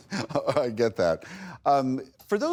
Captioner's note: laughter